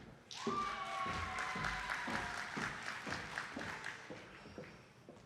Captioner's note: attendees clapping